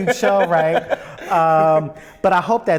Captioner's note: laughs